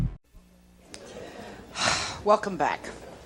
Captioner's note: sighs sharply